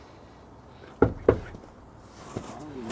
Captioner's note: knocks